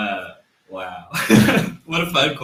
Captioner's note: laughs